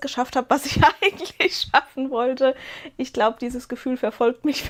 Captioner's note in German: Gelächter